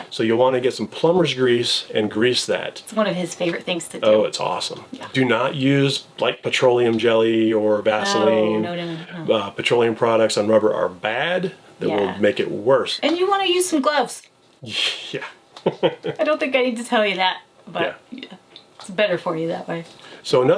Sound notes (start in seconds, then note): 15.6 laughs